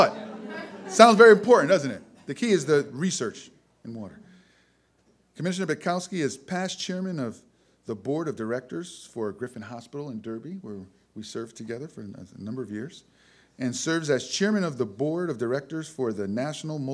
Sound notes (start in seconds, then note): 0.0 audience laughter